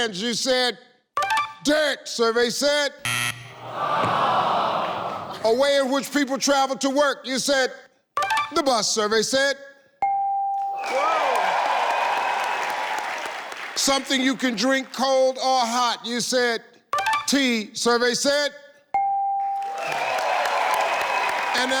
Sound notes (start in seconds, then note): 3.0 buzzer sounds; 3.6 audience sighs; 10.1 bell chimes; 10.7 audience cheers; 19.0 bell chimes; 19.5 audience cheers